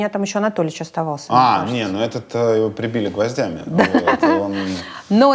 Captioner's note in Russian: смеётся